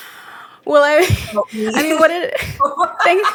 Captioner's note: laughing